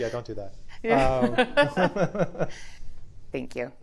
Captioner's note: laughing